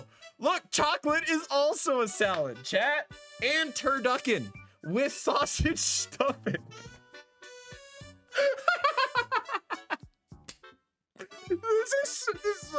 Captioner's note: laughter